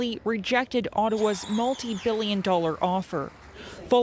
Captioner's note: applause